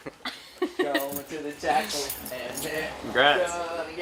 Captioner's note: laughter